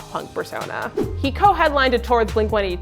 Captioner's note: air whooshing